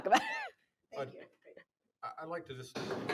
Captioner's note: chuckles